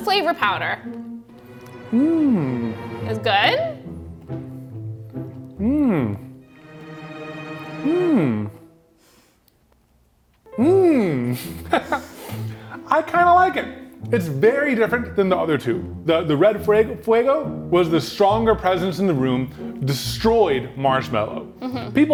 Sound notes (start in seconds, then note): 1.3 tense music; 6.5 tense music; 11.0 laughs